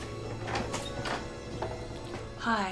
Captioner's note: footsteps pattering; door clatters open